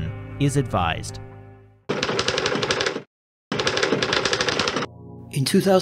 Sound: typing

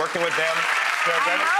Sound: applauding

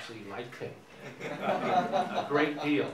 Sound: audience laughing

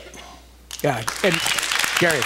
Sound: applause

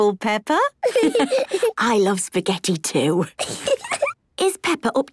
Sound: laughs

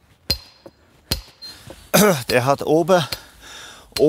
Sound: clears his throat

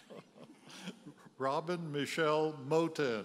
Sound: chuckles; graduate chuckles

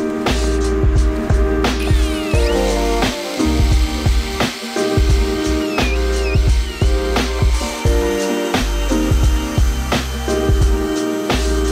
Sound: drill whirring

